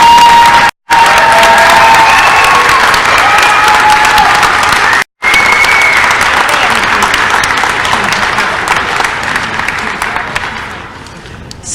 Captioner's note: crowd cheering and applause